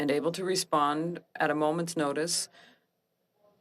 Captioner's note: speaking French